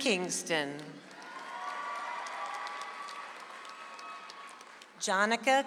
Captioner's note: audience applauds